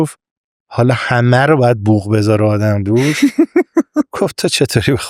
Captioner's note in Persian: خنده